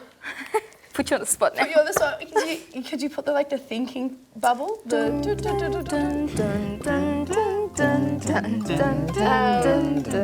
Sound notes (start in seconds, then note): 4.1 cheerful chimes; 6.8 speakers sing along to chimes